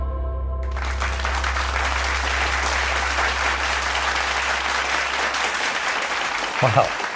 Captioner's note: applause